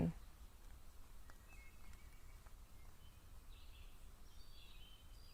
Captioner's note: birds chirping